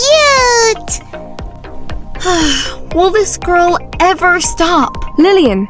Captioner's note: sighs